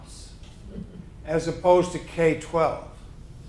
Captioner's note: chuckling